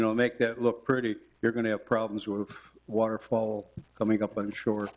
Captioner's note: none